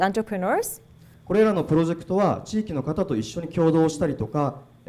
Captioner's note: speaking foreign language